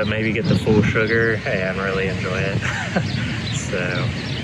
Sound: chuckles

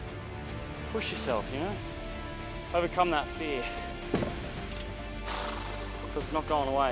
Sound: sighs

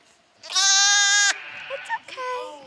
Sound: sheep scream

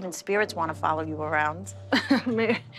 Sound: laughs

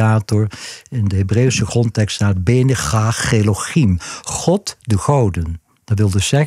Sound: Hebrew

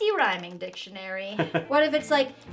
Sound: laughing

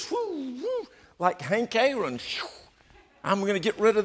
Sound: mimics swishing

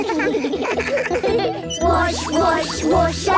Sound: children giggling

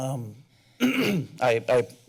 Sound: clears throat

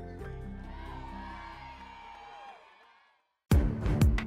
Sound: crowd cheering; dramatic music

